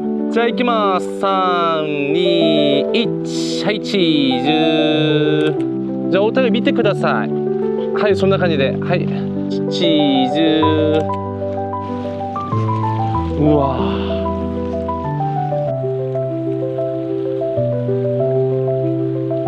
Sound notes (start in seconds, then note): 5.3 ticking; 10.7 ticking